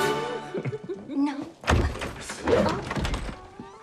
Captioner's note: both laugh; door opens